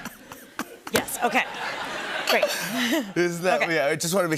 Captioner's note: laughter